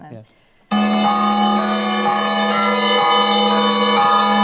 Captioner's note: bell ringing